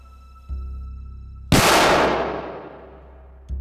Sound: gun fires; ominous music

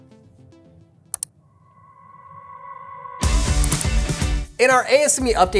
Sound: mouse clicking

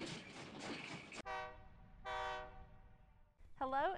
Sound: train whistling

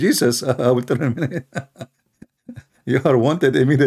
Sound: Ketawa

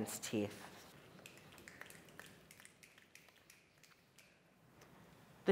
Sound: audience applauds

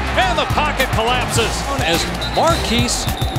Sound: voiceover

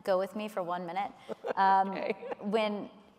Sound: laughs

